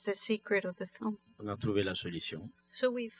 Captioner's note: speaking french